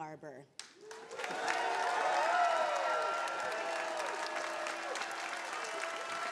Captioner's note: attendees cheering and applauding